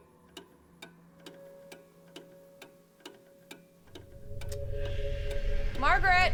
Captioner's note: clock ticks rhythmically; eerie music continues